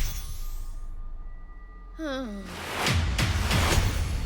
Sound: inhales, groans

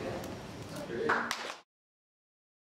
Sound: clapping

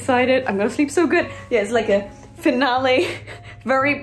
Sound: laugh

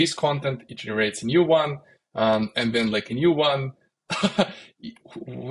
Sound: laughs

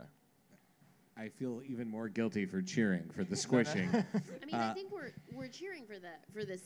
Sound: laughter

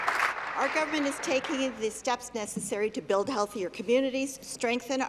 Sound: applause

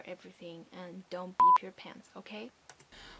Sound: beep

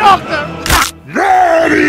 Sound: bones snap

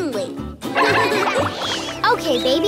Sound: laughing

